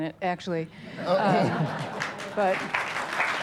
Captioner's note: laughs and claps; heavier applause